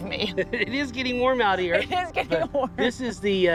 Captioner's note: laughs